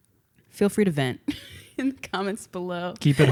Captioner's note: laughs